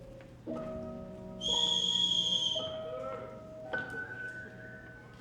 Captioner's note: audience whistling